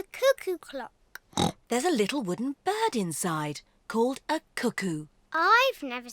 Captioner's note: oinks